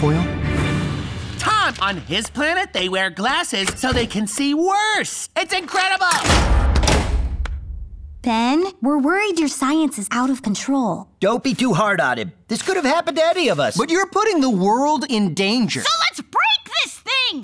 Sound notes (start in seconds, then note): 6.1 door slams